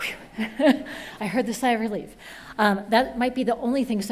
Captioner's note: laughs